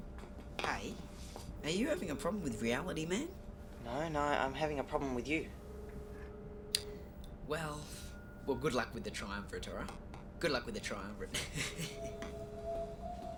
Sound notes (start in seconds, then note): 11.3 snickers